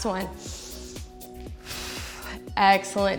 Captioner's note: inhales and exhales